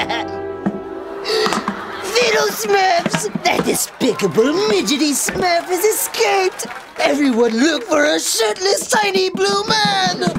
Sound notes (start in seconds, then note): 1.1 laughs evilly; 1.2 gasps